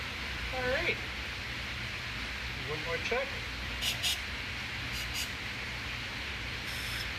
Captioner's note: puffs of hissing air